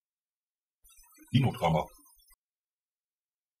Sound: fast Pronunciation

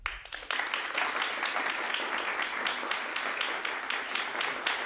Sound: audience applauding

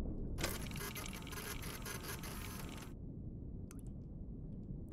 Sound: machine whirring

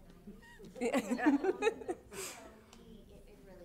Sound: laughter

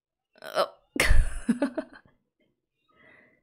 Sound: laughs

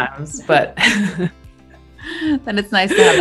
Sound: both laugh

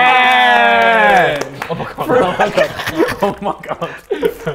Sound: laughs

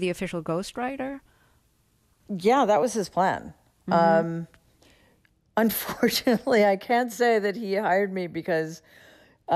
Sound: laughter

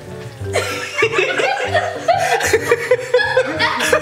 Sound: laughter

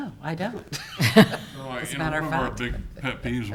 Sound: laughing

